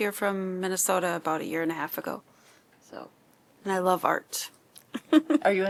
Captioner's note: laughter